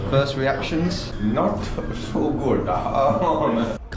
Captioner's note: laughs